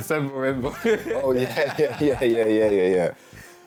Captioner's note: both laughing